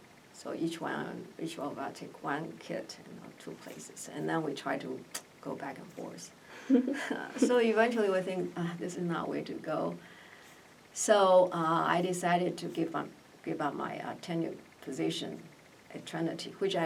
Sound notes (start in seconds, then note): 6.5 sighs; 6.6 laugh